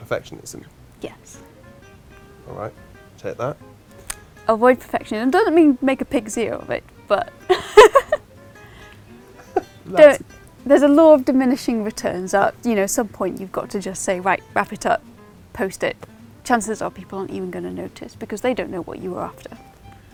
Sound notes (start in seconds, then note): 7.4 laughs